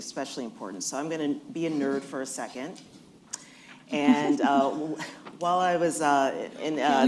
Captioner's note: laughter